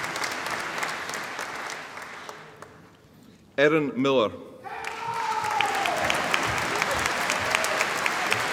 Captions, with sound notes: Erin Miller (AUDIENCE APPLAUDING)